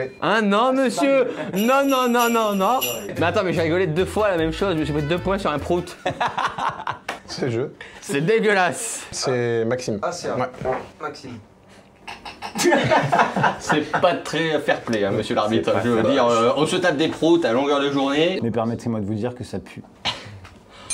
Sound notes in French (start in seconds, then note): 5.9 rires; 12.2 rires; 20.1 ricanement